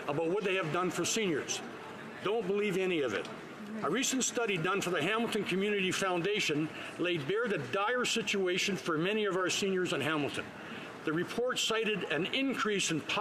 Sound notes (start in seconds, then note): none